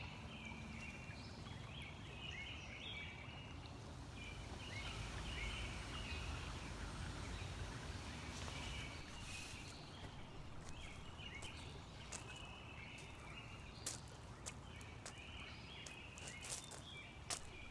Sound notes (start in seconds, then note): 9.9 footsteps off in the distance